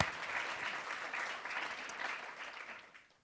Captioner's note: applause